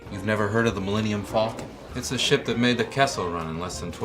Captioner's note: none